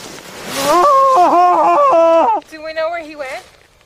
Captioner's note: screaming